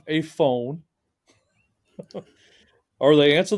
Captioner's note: laughing